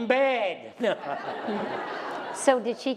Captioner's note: laughter